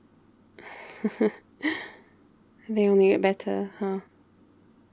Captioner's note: laughs